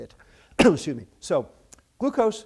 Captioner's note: coughs